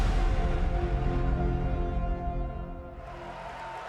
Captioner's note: crowd cheering